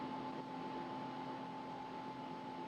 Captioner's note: none